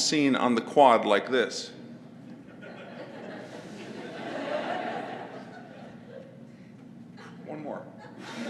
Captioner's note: laugh